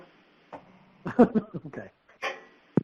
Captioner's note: laughs